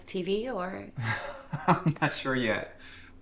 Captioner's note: Thomas chuckles